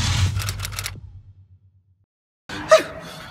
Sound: typewriter clicking

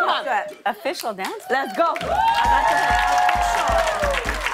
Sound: cheers and applause

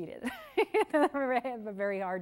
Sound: laughs

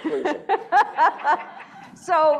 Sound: laughing

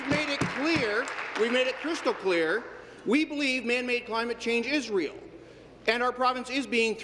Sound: applause

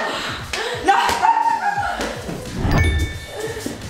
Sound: yelling

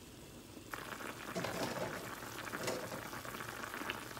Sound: boiling

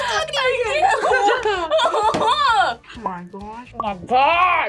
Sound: laughs in disbelief

